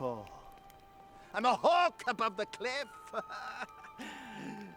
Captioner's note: laughs